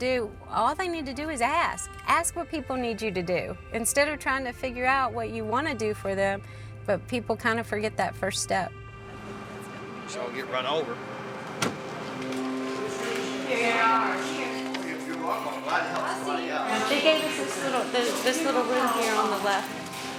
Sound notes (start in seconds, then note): 15.2 overlapping chatter